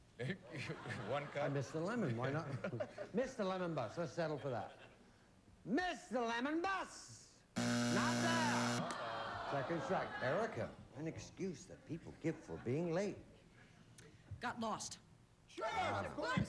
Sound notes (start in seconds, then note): 7.5 buzzer